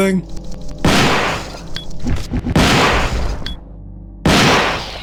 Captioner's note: gunshots